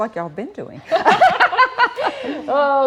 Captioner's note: both laugh